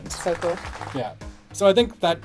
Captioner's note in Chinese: 鼓掌